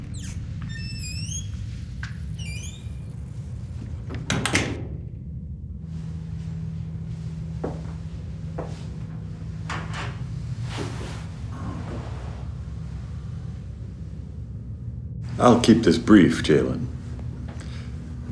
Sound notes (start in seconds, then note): 0.0 door creaking; 4.0 door closing